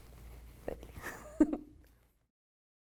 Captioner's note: giggles